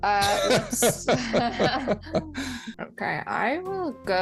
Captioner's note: laugh